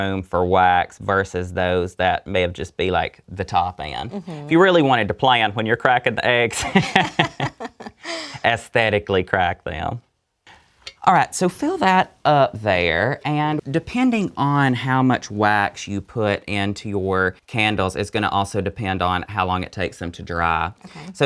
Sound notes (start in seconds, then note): 6.5 both laugh